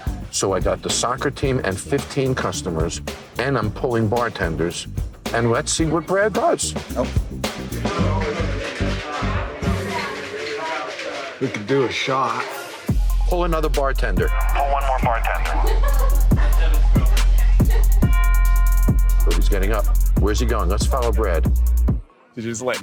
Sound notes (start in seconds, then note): 16.1 customer laughing